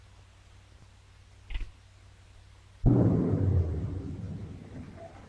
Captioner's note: cuffs click